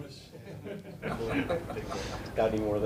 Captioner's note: press members chuckling